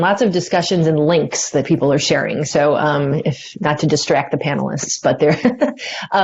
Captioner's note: laughter